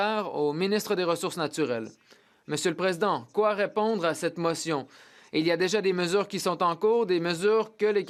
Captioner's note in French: voix de l'interprète